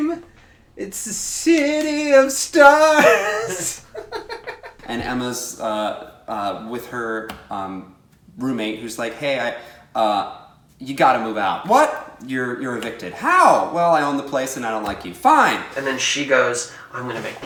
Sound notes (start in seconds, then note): 3.2 laughs